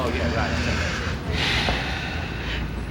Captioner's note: chattering; sighs